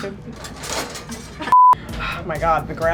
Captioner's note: beep